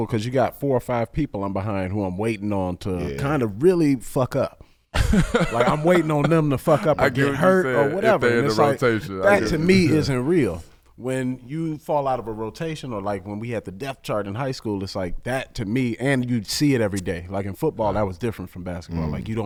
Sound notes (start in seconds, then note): 5.0 laughing